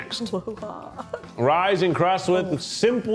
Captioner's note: chuckles